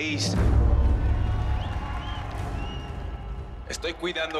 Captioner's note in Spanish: Algarabía y aplausos